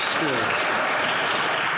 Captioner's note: some Applause